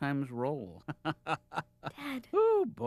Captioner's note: laughs